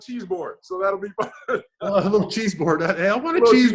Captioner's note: laughs